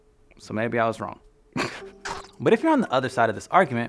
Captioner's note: chuckles